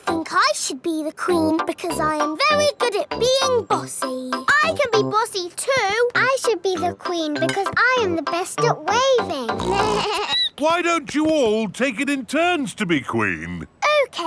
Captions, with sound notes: I think I should be the queen because I am very good at being bossy! I can be bossy, too! I should be the queen because I am the best at waving! (SNORTS) (BLEATS) Why don't you all take it in turns to be queen?